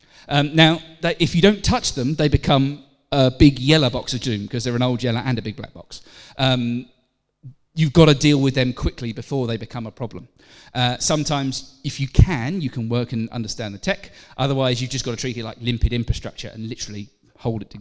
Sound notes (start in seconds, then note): none